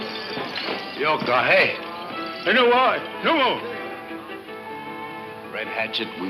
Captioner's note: speaks in foreign language